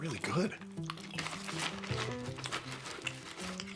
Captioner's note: munch, munch, munch